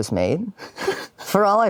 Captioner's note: giggles